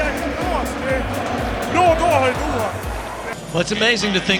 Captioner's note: speaking in Swedish